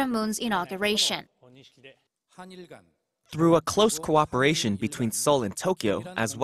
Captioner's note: Korean